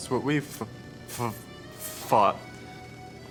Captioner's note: stuttering